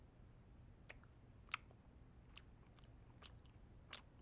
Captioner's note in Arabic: مضغ